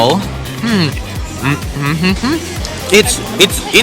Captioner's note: Minecraft villager sounds